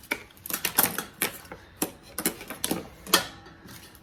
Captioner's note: clatters with scissors